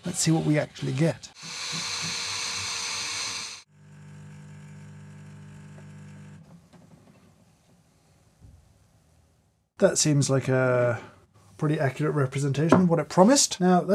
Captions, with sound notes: The see what we actually get. (coffee machine hissing) (coffee machine humming) That seems like a pretty accurate representation of what it promised.